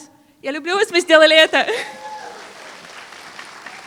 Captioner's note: foreign Language